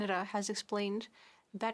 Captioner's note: speaking French